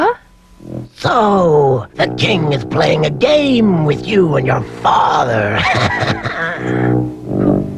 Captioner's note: cackling; laughs